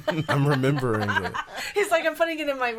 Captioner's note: laughing